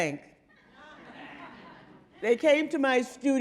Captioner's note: audience laughing